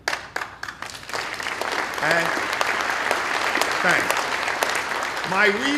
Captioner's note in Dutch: Applaus